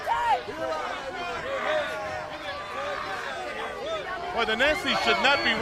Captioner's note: crowd chatter